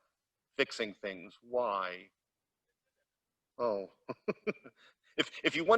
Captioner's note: laughs